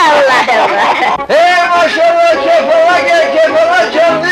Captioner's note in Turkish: Kahkahalar; Balıkçının balıkları övmesi, çarşı ortam gürültüsü